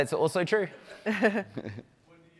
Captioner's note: laughter